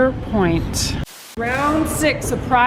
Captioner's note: static